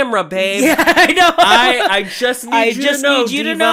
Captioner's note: laughter